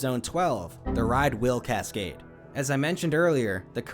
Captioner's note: Windows error sound